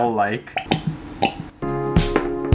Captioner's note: Squelch